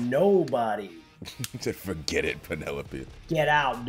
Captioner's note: laugh